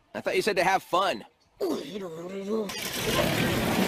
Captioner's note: grumbling